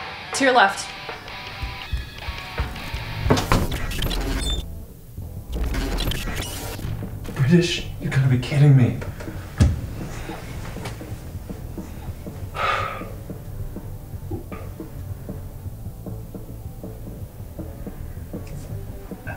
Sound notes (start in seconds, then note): 0.8 hurried footsteps; 2.2 door slam; 10.0 sighs